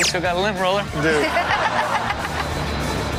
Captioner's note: everyone laughs; upbeat music continues